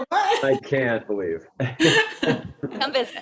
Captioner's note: chuckles